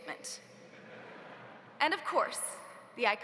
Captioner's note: audience laughs